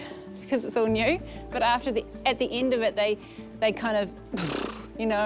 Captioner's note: blows